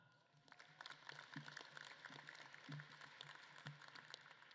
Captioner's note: audience claps